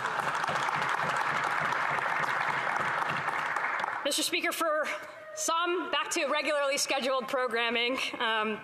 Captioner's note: some Applause